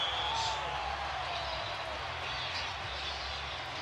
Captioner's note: crowd cheering